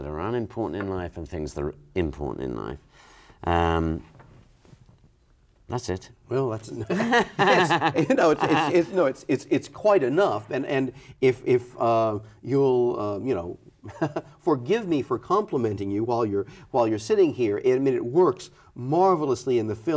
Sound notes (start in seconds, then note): 6.8 laughs; 13.9 laughs